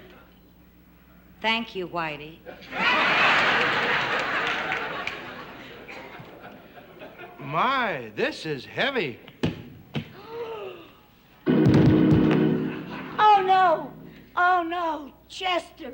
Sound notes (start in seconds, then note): 2.5 laughter; 9.4 thud; 11.4 dramatic organ music